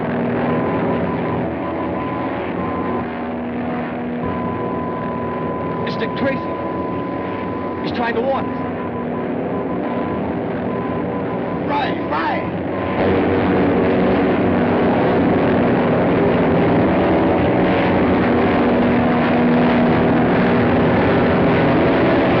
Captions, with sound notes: [BEEPING] Mr. Tracy, he's trying to warn us. Right, right! [PLANE WHIRRING]